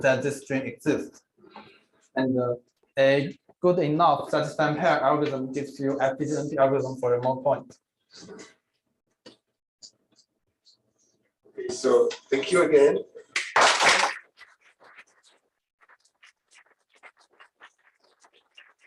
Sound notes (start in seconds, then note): 13.3 applause